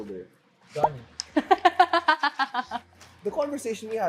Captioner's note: belle laughs